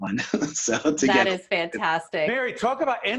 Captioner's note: laughing